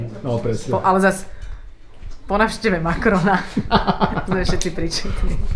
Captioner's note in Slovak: smiech